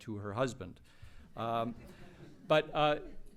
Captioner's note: laughter